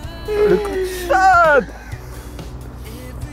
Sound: mówi po francusku

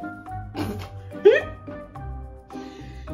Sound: laughs

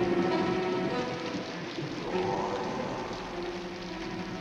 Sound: ghostly voice

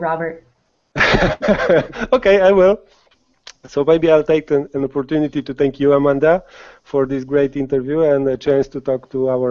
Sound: laughs

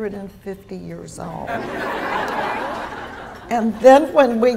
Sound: laughter

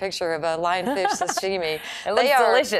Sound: laughing

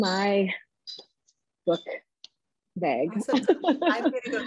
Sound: chuckles

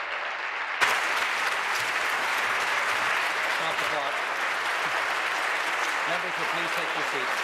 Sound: applause

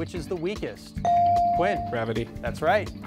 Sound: device dings

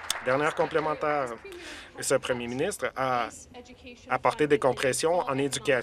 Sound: applause

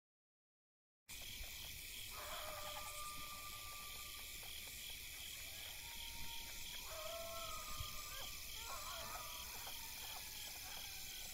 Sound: sound of coyotes

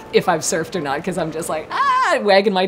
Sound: ahhh!

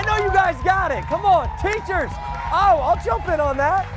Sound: cheers and applause

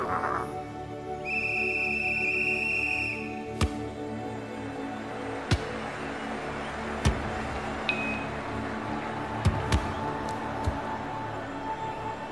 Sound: referee Whistle. Football sounds. Crowd cheering

